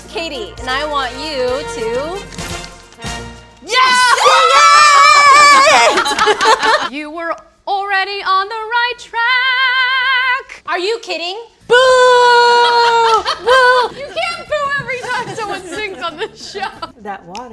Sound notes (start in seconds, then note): 4.0 crew celebrating; 11.8 booing